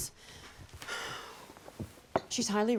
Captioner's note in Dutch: zucht